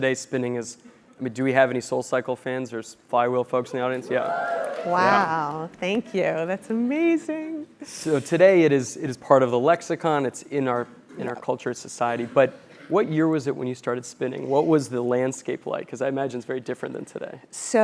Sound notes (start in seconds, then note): 4.2 applause